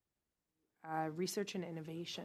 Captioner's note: speaking French